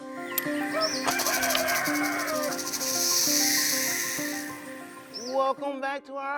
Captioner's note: snake hisses; rooster crows